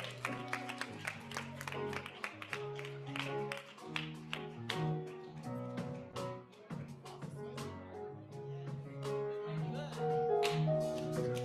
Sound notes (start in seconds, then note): 0.0 audience applauds; 0.0 upbeat music; 6.6 crowd chattering